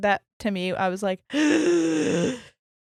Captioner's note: gasps loudly